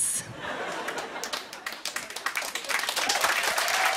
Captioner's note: cheers and applause